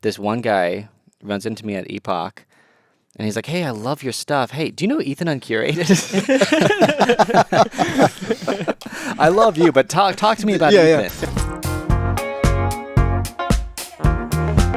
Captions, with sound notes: this one guy runs into me at Epoch, and he's like, "Hey, I love your stuff. Hey, do you know Ethan Uncurated?" (everyone laughing) "I love you, but talk to me about Ethan." - Yeah, yeah. (gentle upbeat music)